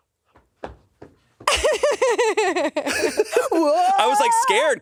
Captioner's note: laughs